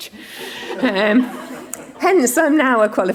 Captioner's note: audience laughing